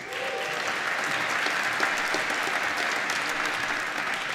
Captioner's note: applause